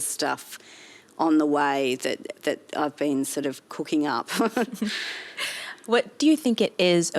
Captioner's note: chuckles